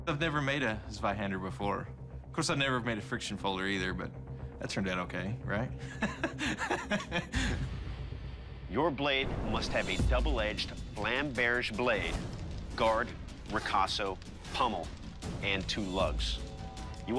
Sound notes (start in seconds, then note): 5.8 laughs nervously